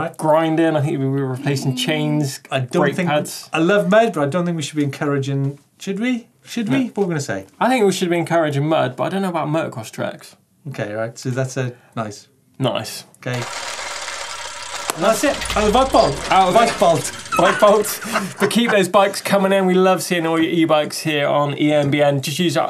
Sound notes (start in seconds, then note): 14.7 wheels screeching; 17.1 loud laughter